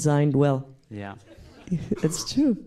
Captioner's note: laugh